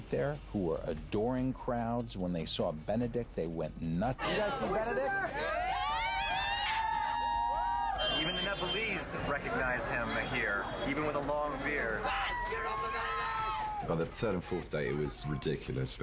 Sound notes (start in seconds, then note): 6.6 cheering; 13.3 cheering